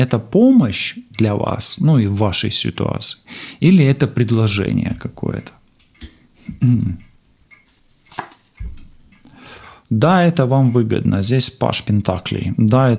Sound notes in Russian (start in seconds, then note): 3.8 фыркает; 6.4 откашливается